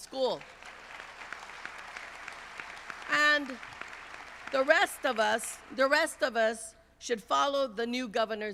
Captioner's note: applause